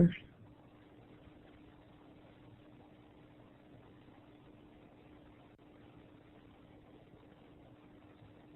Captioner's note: silence